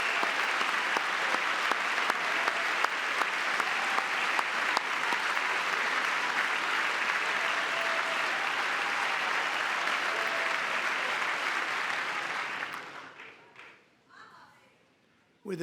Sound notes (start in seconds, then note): 8.9 applause; 10.8 cheering